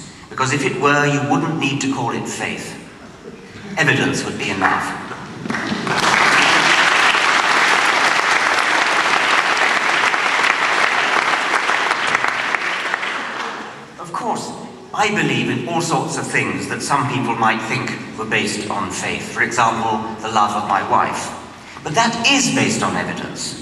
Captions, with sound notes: because if it where you would not need to call it faith. Evidence would be enough. [applause] Of course I believe in all sorts of things that some people might think where based on faith. For example the love of my wife. But that is based on evidence!